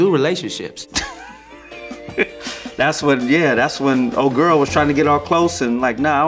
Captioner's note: laughs